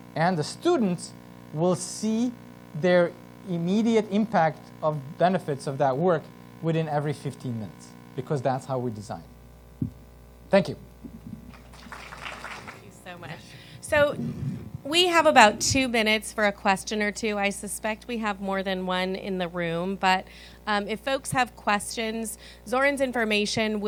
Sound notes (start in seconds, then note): 11.4 applause